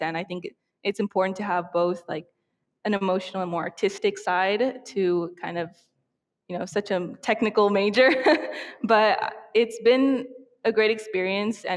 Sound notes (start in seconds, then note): 7.7 chuckling